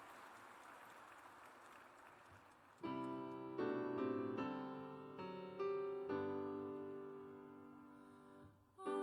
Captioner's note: applause